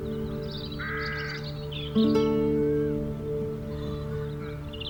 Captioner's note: bird squawks distantly